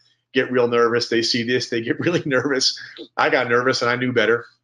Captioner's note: chuckling